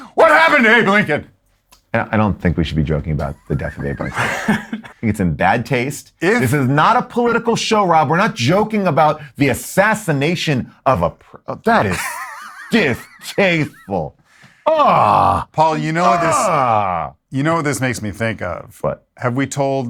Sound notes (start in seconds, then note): 11.8 laughing